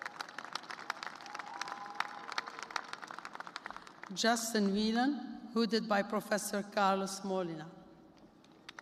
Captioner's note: applause